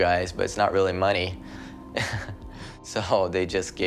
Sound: laughs

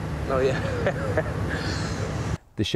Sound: laughs

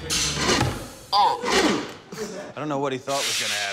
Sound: motor whirs

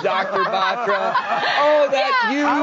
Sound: audience laughing

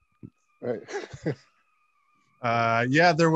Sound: laughs

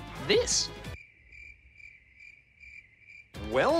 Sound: crickets chirp

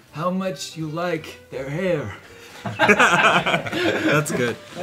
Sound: laughter

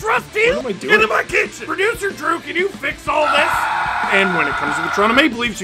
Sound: screaming

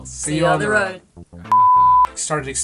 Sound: high beep

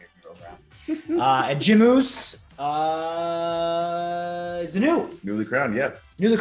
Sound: laugh

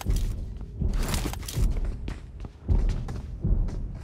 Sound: footsteps

